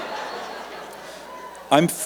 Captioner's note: laughter